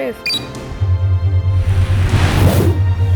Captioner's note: beep; whooshing sound effects